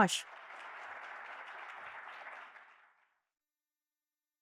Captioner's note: audience applauding